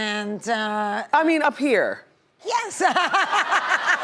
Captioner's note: laughs